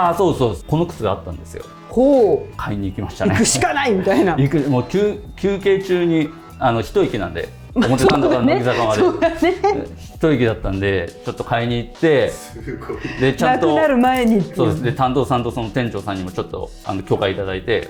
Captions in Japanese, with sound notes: ああ、そう、そうです。この靴があったんですよ。 ほう。 買いに行きましたね。 行くしかないみたいな。 行く。もう急休憩中にあの 1息なんで表から乃木坂までそうね [笑い] 1息だったんでちょっと買いに行って すごいなくなる前にて そうです担当さんとその店長さんにもちょっとあの許可いいただいてこれ買わせただいですかっていうので